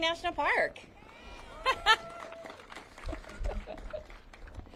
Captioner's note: audience cheers